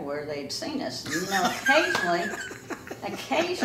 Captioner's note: laughs